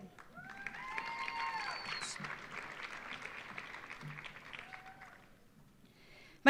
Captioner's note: audience cheering; audience applauding